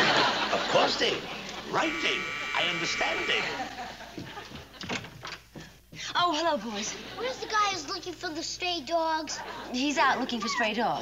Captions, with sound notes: Of course, David. Right, David. I understand, David. (doorbell buzzes) Oh, hello, boys. Where's the guy who's looking for the stray dogs? He's out looking for stray dogs.